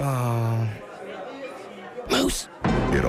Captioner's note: loud whisper